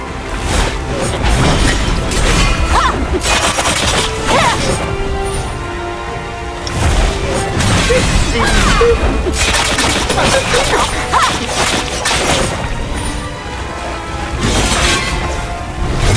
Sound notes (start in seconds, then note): 8.4 random *beep* and *boop